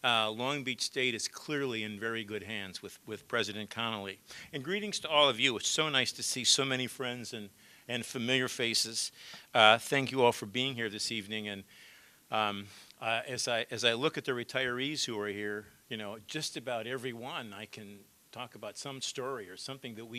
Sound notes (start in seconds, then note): none